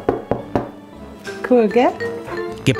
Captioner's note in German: Klopfgeräusche